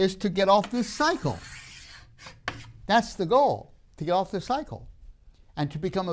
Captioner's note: marker scrapes